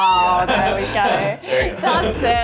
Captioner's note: chuckling